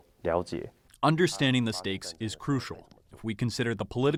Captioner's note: through translator